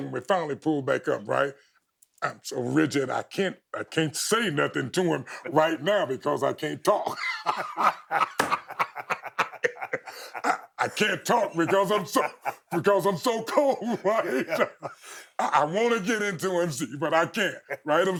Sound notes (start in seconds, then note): 7.3 both laughing